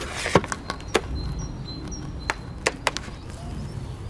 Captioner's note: birds chirping